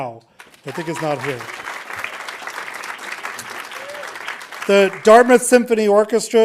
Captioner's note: audience applauding